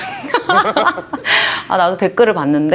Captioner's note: laugh